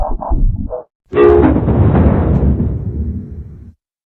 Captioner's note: Supernatural 3D Giga Windows XP Shutdown Sound